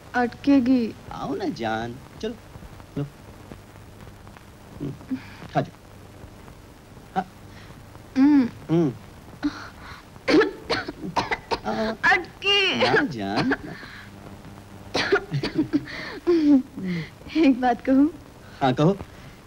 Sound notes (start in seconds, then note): 10.2 coughing